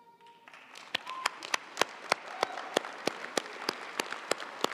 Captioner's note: audience applauding